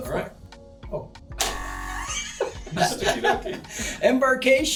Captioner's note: laughter